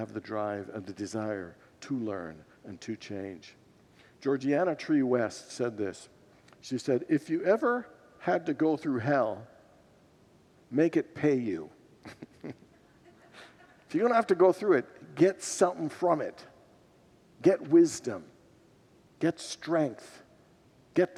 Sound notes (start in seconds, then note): 12.0 laughs with congregants